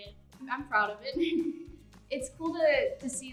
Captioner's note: giggles